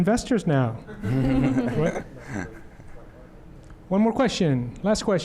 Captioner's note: laughter